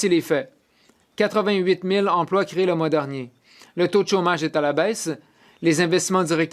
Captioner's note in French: voix de l'interprète